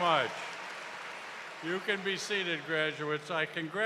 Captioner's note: cheers and applause